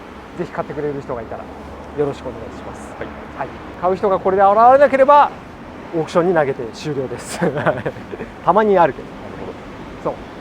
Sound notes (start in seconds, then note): 7.1 laughs